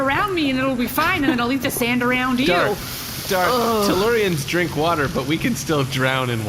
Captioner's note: laughing